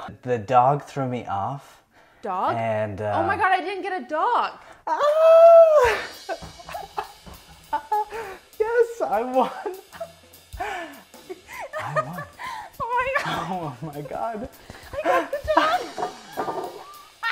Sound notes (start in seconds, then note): 4.9 yells; 6.9 laughs; 11.4 laughs; 14.8 laughs; 17.1 cackles